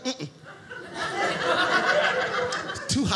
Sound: audience laughing

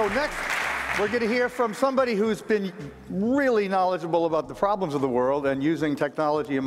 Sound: applause

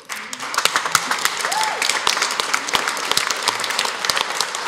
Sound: applause

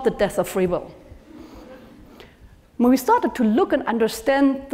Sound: laugh

